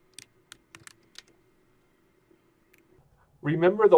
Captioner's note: typing